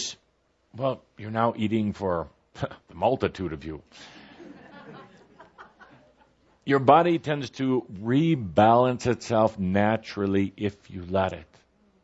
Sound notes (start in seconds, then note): 4.2 laughter